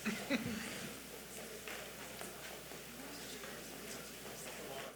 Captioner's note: attendees chattering